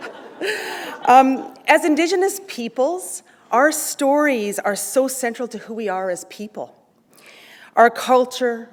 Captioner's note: chuckle